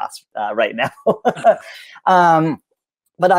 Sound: laughs

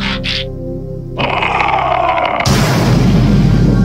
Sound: screaming; explosion

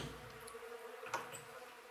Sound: humming

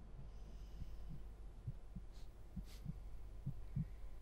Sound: heart starts pumping loudly

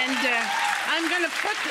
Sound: audience applauding

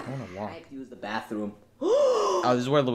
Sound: gasps

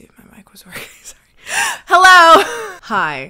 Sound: laughing

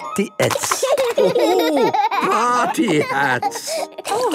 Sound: laughing

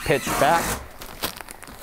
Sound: electric screw gun buzzing

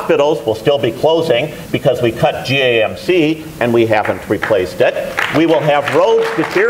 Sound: applause

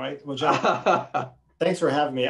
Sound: laughs

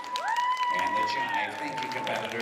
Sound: applause

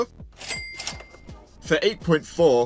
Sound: ka-ching

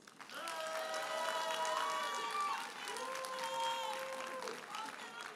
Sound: audience cheers and applauds

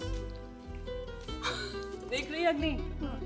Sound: laughs

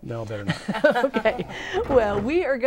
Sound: laughing

